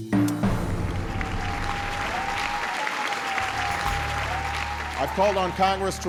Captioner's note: cheers